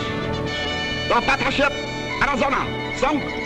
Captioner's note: voiceover